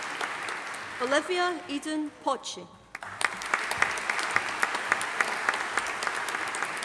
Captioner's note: audience applauding